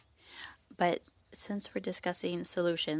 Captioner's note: speaking French